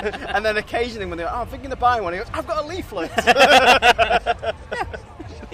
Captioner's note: laughing